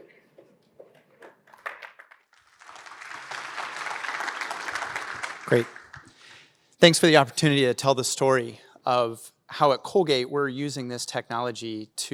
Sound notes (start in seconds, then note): 1.5 applause